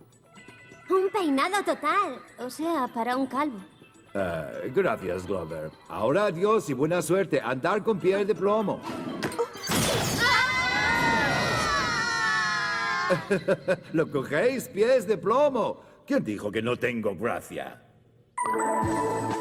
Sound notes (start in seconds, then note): 10.2 wailing